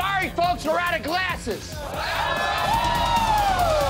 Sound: shouting

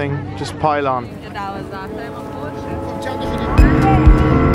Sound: speaking foreign language; boat engine roaring

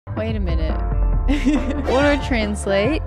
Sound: laughs

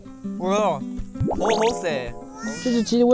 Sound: Cantonese

